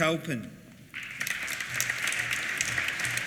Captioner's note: applause